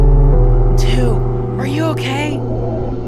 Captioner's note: whispering